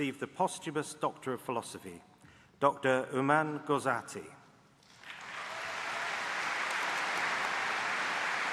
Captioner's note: applause